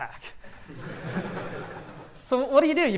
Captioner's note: laughs